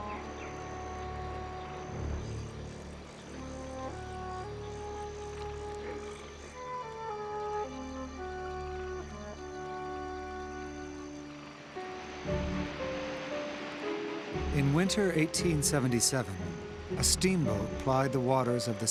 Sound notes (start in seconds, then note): 2.6 insects buzzing